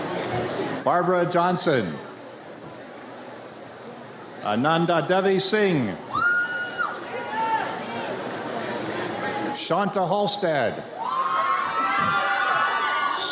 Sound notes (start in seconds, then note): 6.1 audience cheers; 10.9 audience cheers